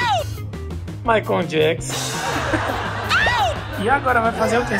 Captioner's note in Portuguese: som de bateria; som de risadas